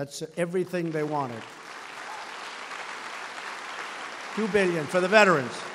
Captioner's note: applause